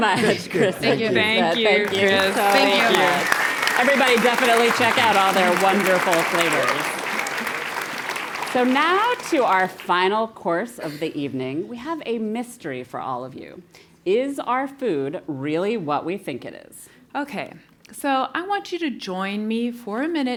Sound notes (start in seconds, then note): 3.2 applause